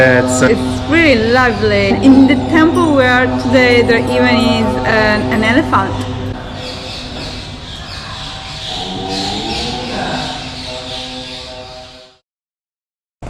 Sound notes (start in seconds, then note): 6.3 birds singing